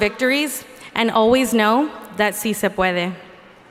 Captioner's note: speaking in foreign language